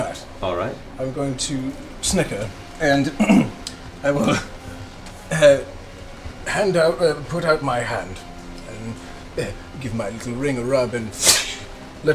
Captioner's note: laughs